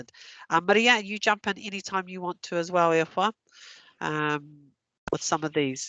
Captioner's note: non-english